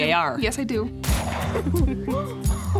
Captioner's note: gunshot